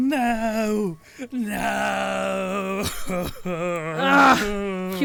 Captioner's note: continues sobbing